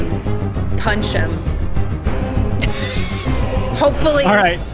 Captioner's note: laughing